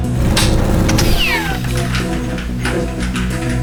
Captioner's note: modem shuts down